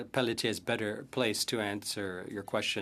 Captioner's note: speaking French